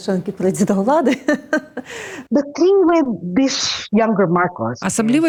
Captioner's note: laughs